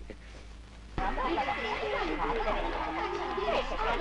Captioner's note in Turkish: Okul bahçesi ortam gürültüsü